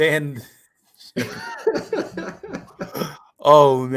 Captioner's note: laughter